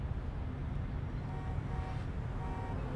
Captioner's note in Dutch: auto toetert